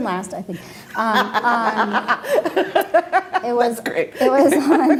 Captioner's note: laughing